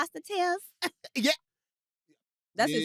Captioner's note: laughs